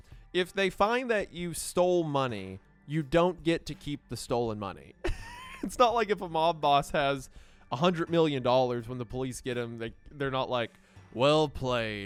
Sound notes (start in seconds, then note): 4.9 laughs